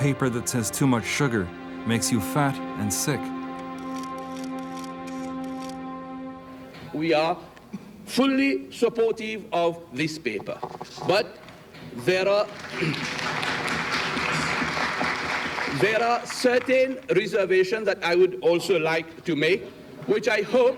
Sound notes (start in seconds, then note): 3.6 camera shutters clicking; 12.3 people clapping